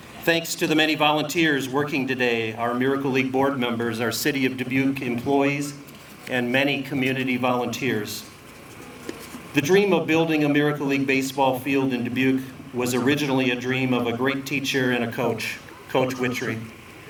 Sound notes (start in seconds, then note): none